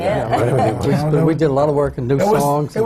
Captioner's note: laughs